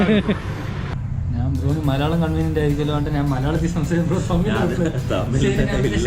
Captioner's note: giggling